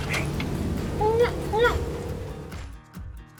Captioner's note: alligator calling; upbeat music